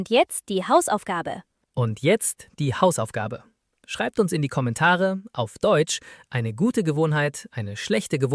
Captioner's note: in German